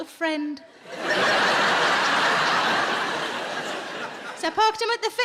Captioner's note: audience laughing